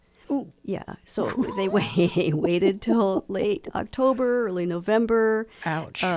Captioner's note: laughs